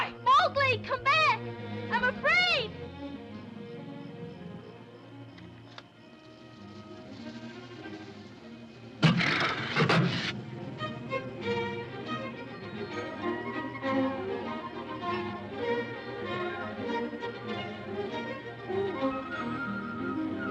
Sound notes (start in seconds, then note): 4.6 ominous music; 9.0 panther growls; 10.1 whimsical music